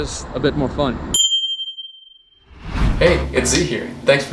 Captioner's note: ring of a bell